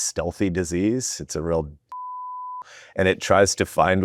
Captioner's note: beep